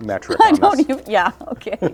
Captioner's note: chuckling